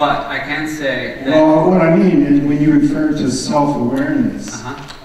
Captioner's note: voiceover